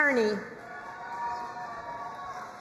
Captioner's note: crowd cheering and applauding